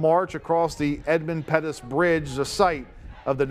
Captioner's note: chanting and marching 5 seconds